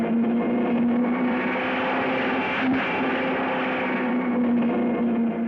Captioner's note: car screaming